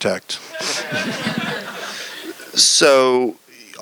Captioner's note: laughter